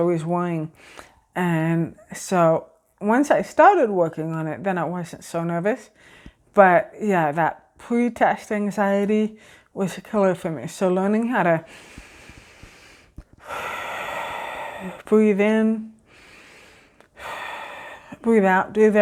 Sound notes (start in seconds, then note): 13.3 exhale; 13.3 inhale